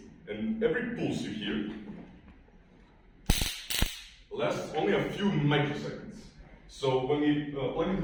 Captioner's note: taser zapping